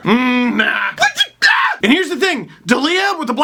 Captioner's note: makes hysteric and exasperated sounds